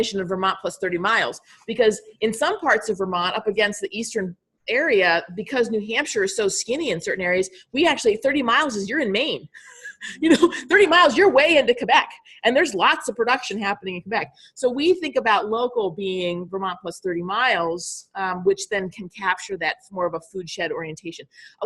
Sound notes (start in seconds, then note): 9.6 laughing